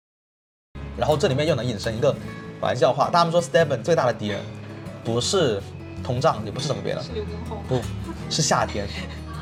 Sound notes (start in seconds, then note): 7.8 laughs